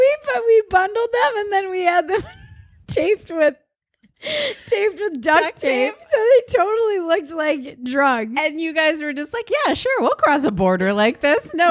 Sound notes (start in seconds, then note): 5.4 laughs